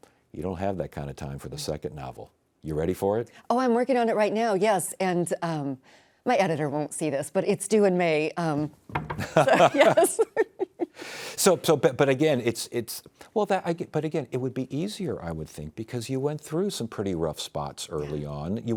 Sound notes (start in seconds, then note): 8.8 table thudding; 9.2 laughing